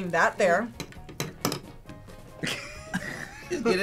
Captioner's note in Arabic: قعقعة الشوكة; يضحك